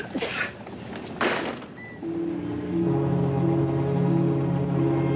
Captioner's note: storekeeper sneezing; door thudding